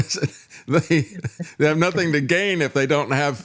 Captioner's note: laughing